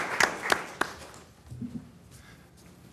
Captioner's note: applause